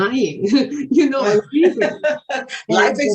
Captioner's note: laughing